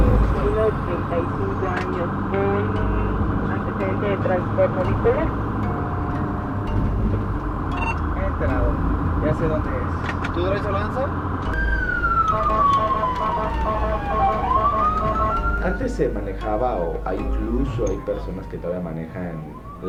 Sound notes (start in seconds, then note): 12.0 ambulance sound